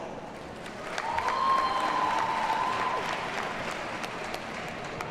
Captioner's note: audience cheers and applauds